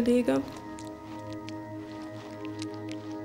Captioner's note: wet rustling